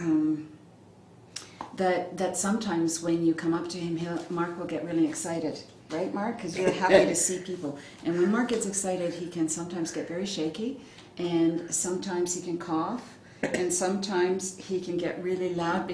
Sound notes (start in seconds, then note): 6.6 laughs